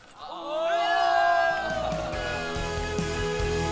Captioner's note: boos